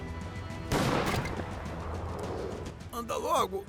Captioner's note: gunshot banging